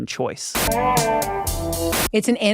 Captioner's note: static hissing